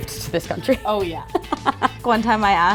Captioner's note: laughs